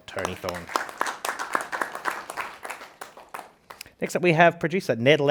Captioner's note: participants clapping